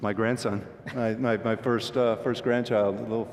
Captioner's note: laughter